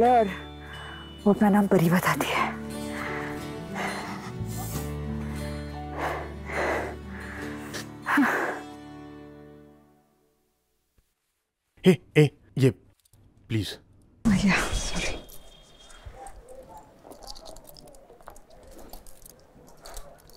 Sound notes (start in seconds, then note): 2.8 exhales; 5.8 panting